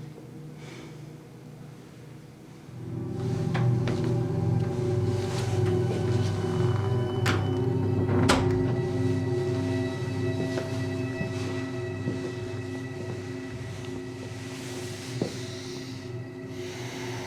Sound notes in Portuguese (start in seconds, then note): 6.7 Porta fechando